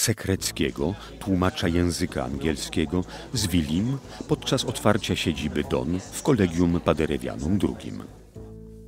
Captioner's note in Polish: odgłosy rozmów